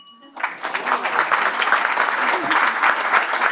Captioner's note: applause